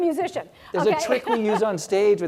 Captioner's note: laugh